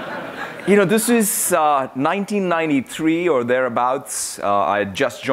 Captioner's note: laughter